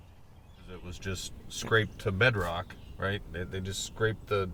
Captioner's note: voiceover